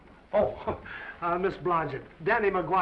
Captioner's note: laughs